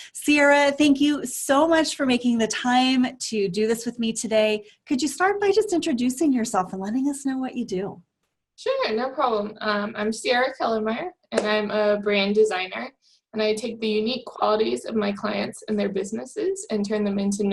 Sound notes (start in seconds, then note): none